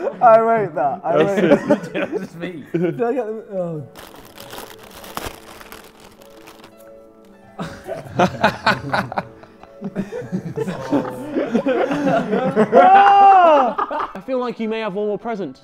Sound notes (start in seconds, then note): 1.3 laughs; 7.5 Josh laughing; 10.0 Sidemen laughing